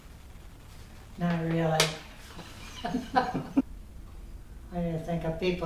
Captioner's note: laughs